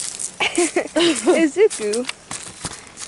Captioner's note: laughs